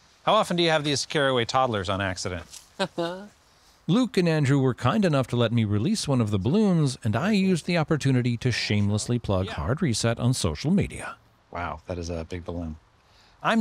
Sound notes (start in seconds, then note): 2.8 chuckles